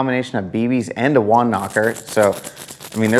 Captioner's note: bb's rattling